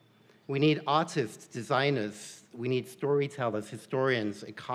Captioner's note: none